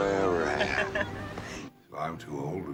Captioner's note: woman chuckles